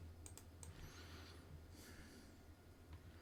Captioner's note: silence; silence